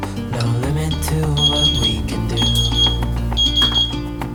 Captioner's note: 15 Minute Timer Alert Sound